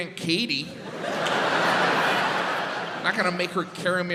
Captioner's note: crowd laughs